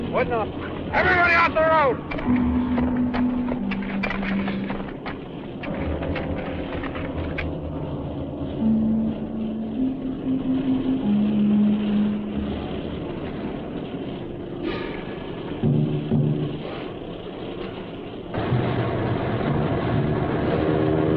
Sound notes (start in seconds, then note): 11.2 motor whirring; 11.2 ominous instrumental music